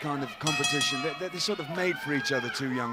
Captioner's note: bell ringing